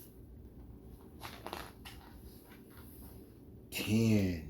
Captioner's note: paper rustles